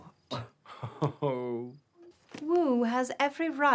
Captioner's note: Ewald laughs